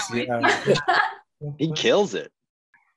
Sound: laughs loudly

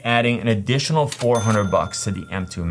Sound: cash register chimes

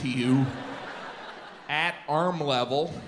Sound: audience laughs

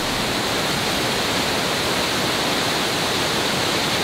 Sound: chilling waterfall

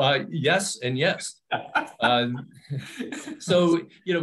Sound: laughs

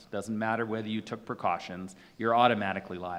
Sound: none

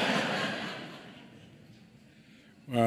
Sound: laughter

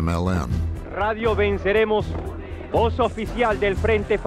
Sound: speaking Spanish

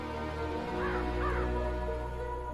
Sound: bird cawing

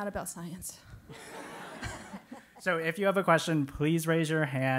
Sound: laugh

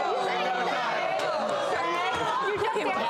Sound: laughing

